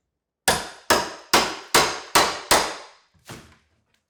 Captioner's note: hammer thumping